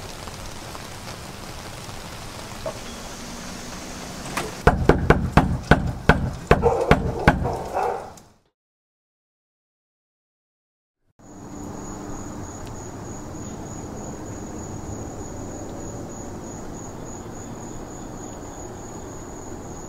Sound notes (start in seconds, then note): 4.6 knocking on door; 6.4 dog barking